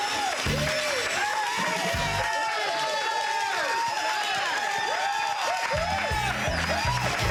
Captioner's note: cheering